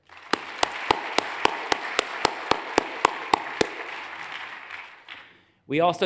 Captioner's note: hands clapping; audience applauds